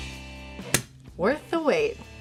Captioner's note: bottle uncorking